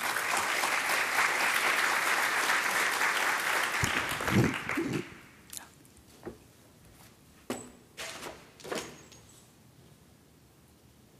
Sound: applause

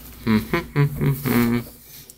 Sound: huming

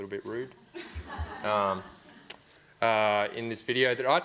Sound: audience laughs

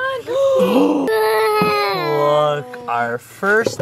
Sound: gasps

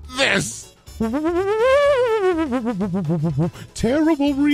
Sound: kazoo noises with hands

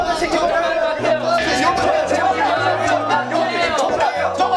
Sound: shouting out loud

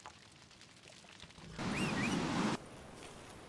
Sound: whistle

